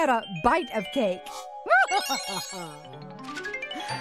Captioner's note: chuckles